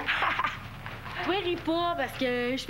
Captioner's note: Rire